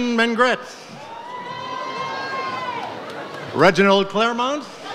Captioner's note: audience cheers